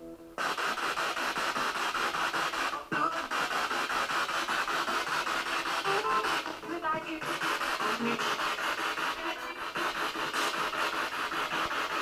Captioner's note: radio noise from the spirit box